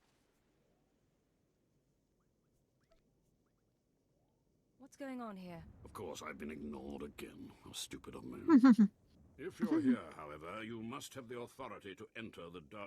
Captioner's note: laughs